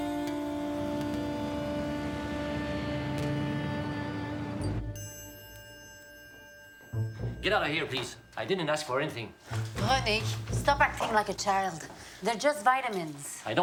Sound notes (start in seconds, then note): 0.5 engine rumbles